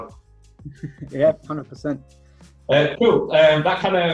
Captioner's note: chuckles